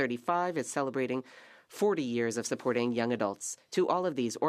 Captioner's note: speaking French